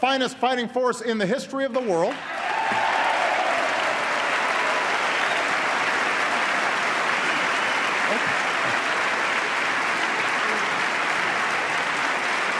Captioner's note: applause